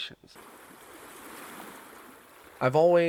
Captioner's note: river roaring